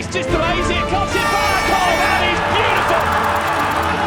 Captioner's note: crowd cheering